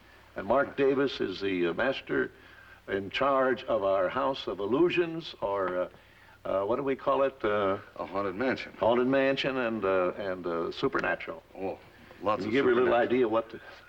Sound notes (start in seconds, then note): none